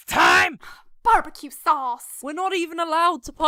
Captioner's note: seashell groans; hay bale sighs